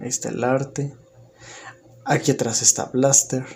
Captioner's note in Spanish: Silencio